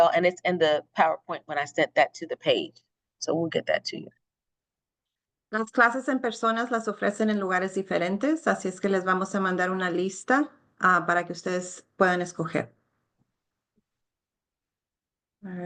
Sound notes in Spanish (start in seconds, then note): 5.5 hablando en español